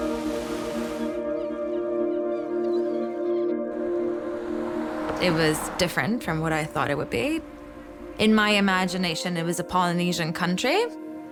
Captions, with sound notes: (gentle music) (seagulls cawing) It was different from what I thought it would be. In my imagination, it was a Polynesian country.